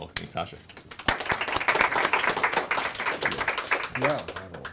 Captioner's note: audience applauds